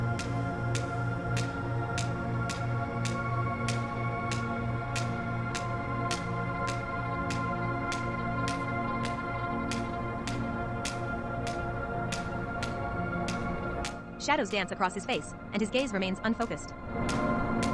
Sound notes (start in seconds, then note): 14.2 machinery whirs